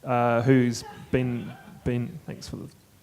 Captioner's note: audience laughter